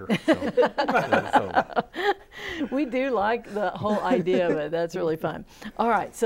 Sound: laughing

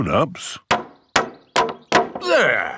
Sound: hammering

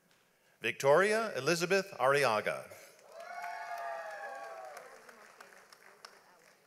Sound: audience applauds

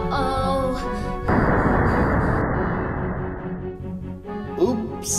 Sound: loud banging

